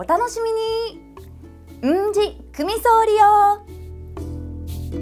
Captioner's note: in Okinawan